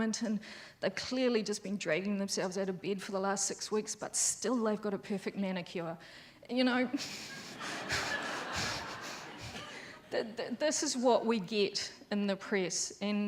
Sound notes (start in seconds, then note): 7.2 laughs; 7.3 audience laughs